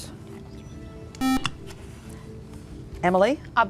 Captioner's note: buzzer